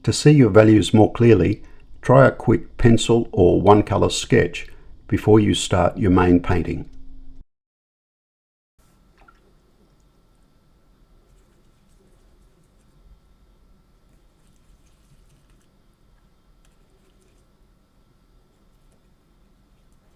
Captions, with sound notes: To see your values more clearly, try a quick pencil or one colour sketch before you start your main painting. [silence]